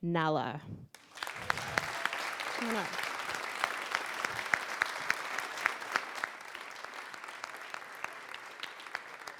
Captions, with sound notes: NALA. (applause) Come on up. (applause)